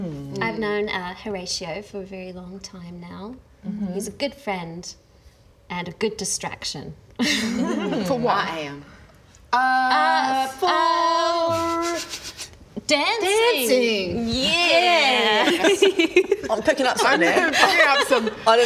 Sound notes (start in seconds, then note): 7.2 roguish laugh